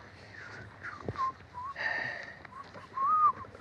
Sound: whistles

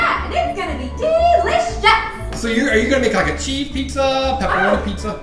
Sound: voiceover

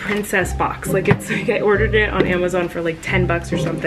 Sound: popping

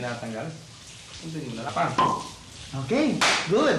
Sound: cork pops

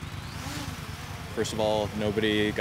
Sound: drone taking off

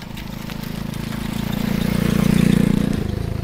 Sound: passing motorcycles

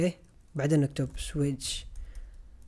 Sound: typing

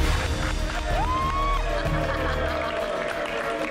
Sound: applause; cheers and applause; laughs

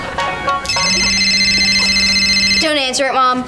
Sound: ringing

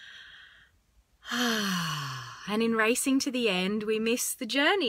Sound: exhales

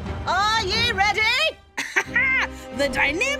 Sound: laughing

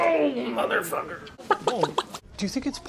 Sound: tom attacking greg while clucking like a chicken #justguythings

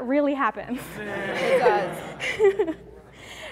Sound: laughing

